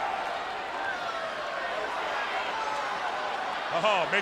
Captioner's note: spectators cheering